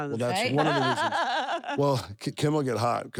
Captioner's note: laugh